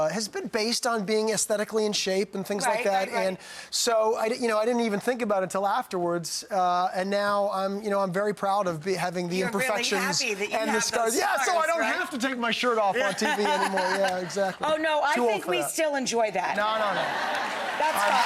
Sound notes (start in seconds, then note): 16.5 audience laughing